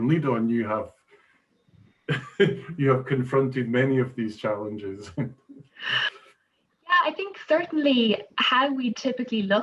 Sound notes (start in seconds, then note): 5.0 chuckles